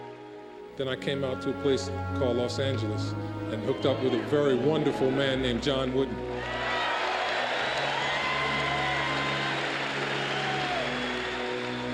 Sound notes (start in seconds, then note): 6.4 cheers and applause